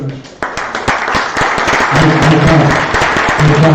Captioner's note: applause